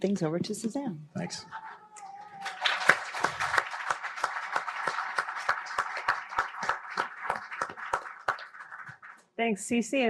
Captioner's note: applause